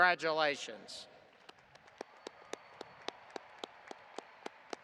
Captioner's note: audience applauding